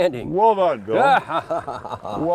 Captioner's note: laughing